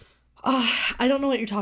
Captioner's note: Hana sighs